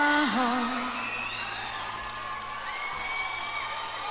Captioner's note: audience shrieks